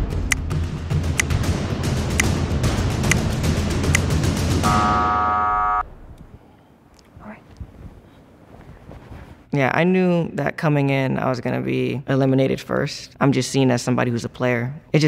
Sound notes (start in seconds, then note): 0.0 intense music; 4.6 buzzer ringing